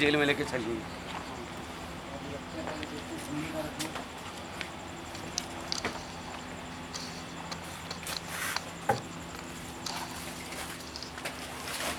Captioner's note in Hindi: कार्यशाला की परिवेशी ध्वनी